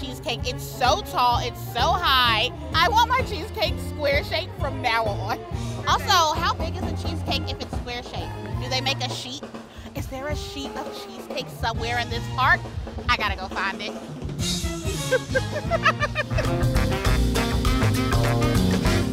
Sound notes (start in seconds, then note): 14.8 laughs